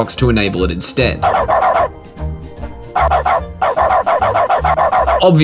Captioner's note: repeated bark sound effects